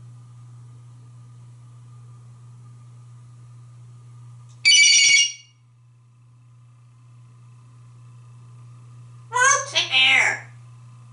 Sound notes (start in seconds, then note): 4.6 sound of telephone ring